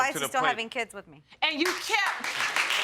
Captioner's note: applause